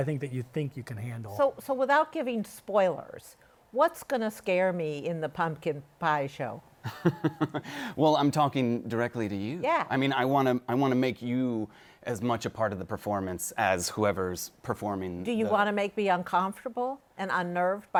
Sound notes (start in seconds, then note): 6.8 chuckles